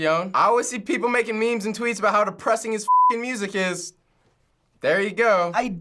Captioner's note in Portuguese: bip